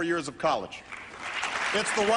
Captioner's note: applause